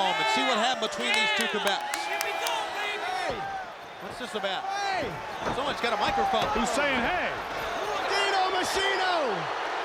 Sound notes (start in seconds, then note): 0.9 claps